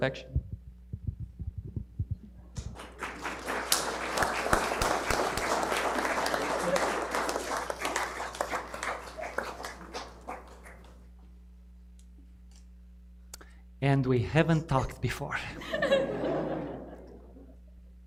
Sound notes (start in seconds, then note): 1.0 Aplauze